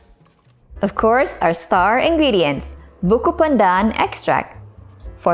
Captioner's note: simmering